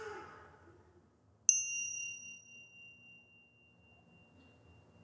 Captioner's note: sound of the bell